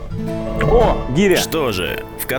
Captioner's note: sarcasm